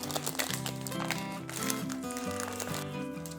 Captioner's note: paper foil sound👍🏻